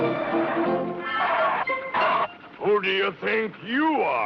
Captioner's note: tires squeal